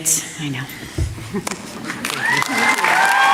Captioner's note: applause